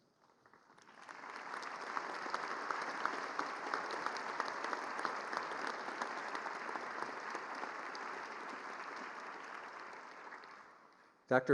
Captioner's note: applause